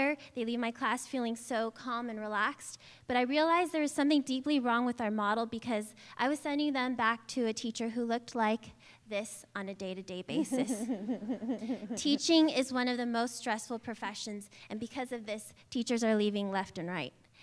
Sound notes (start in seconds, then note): 10.4 laughter